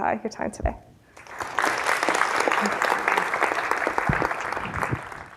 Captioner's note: audience applauds